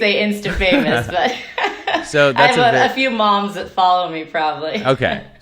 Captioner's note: laughing